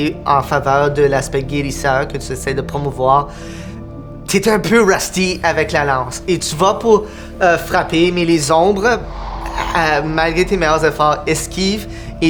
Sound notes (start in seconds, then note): 8.7 sound of wind